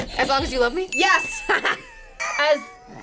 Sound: chuckles; audio dings

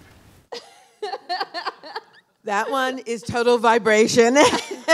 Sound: laughing

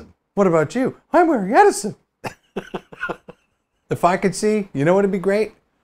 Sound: laughs

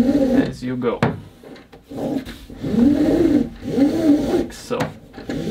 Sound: rope rasping

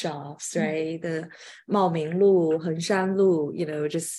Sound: speaking in foreign language

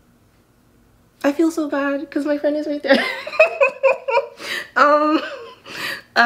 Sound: laughs

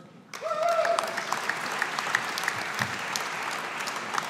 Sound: audience applauding

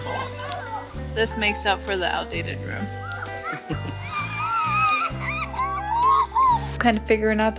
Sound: children screaming

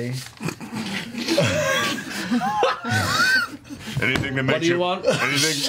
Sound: all laugh

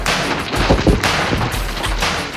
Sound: wood breaking

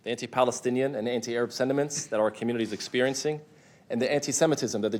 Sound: none

